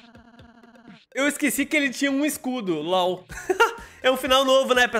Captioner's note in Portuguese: risos